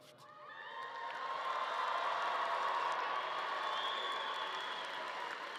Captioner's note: audience cheering and clapping